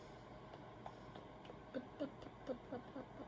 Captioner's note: silly mouth noises